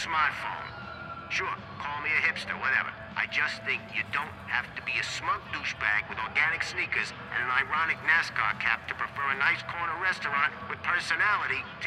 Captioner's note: on the radio